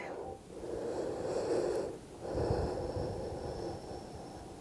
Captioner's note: breathing deeply